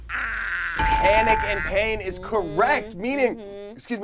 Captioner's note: buzzer rings